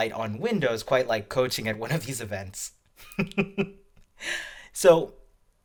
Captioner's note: laughs